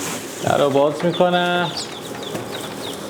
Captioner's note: door